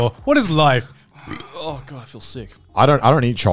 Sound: burps

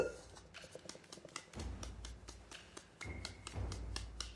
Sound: flour rustling

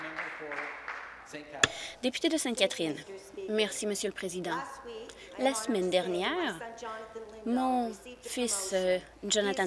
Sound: applause

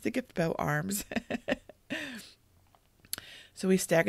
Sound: laughs

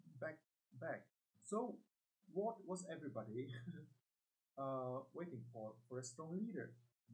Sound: laughs

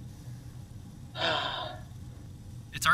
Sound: aggravated sigh

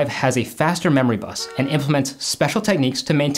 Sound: bus horn honking

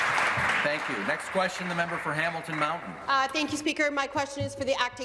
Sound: applause

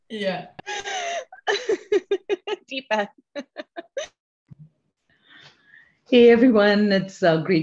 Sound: laugh

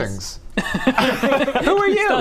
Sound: laughs

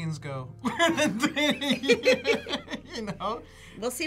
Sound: both laugh

